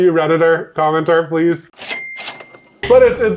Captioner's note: cashier dings